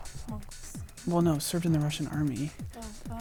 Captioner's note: wispering